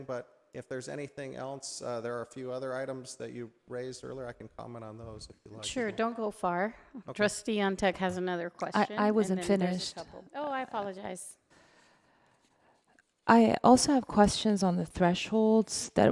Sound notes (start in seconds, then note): none